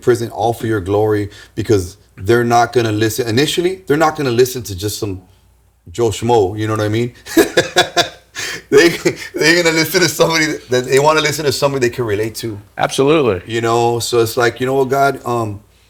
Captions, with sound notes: prison, all for your glory, because they're not going to listen. Initially, they're not going to listen to just some Joe Schmoe, you know what I mean? (laughing) They're going to listen to somebody that they want to listen to somebody they can relate to. Absolutely. You know, so it's like, you know what, God,